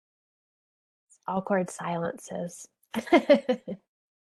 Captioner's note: laughs